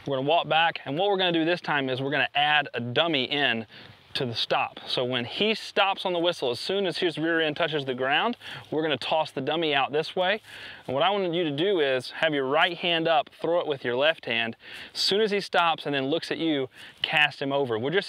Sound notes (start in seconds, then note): none